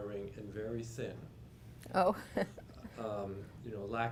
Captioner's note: laugh